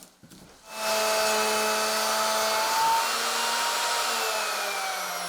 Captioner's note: machine whirring